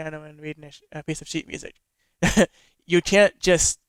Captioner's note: laughs